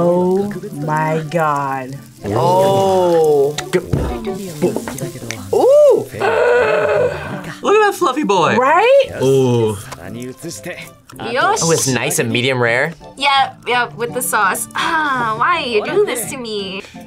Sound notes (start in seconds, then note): 3.5 beat boxes; 5.9 gasps